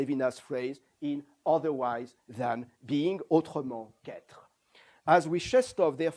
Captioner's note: non-english